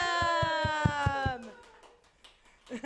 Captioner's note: applause